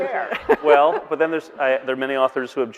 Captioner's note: all laughing